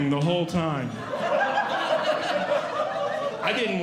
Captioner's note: audience Laughing